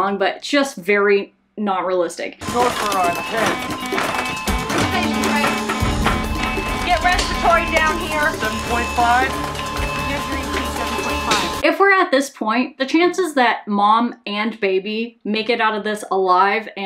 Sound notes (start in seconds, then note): 2.6 monitors beeping